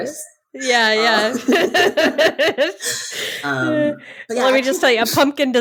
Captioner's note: both laughing